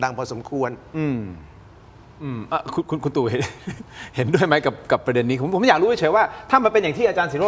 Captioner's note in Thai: เสียงหัวเราะ